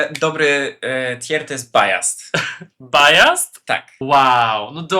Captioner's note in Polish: śmiech